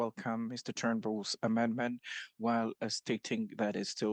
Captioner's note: speaking French